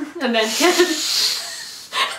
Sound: laughter

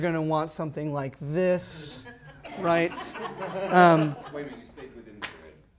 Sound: laughter

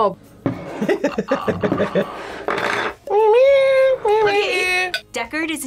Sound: meows; laughs

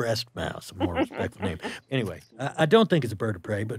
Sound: laughing

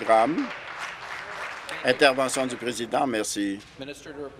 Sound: some applause

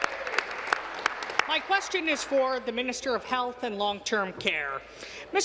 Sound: applause

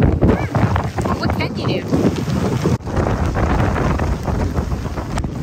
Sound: wind

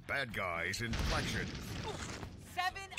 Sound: grunting

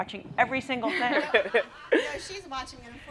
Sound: laughter

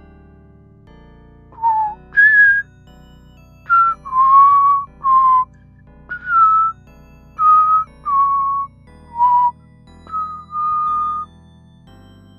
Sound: even more whistling

